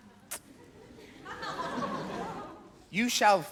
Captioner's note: audience laugh